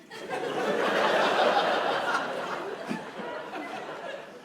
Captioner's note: audience laughs